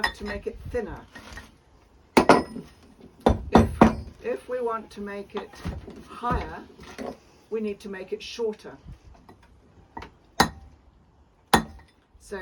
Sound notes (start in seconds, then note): 3.2 continued sound of chisel on rock; 9.4 continued sound of chisel on rock